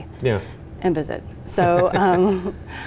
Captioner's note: laughs